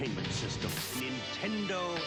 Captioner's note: TV static